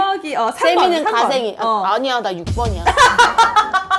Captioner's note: suddenly serious